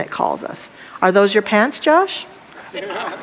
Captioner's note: audience laughter